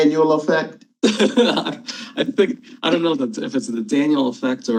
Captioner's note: laughing